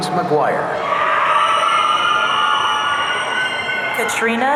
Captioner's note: audience cheering